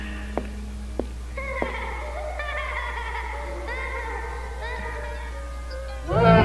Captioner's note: D.W. Laughing